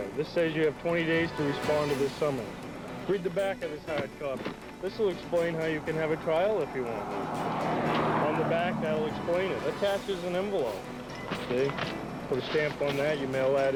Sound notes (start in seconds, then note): 7.2 car whooshing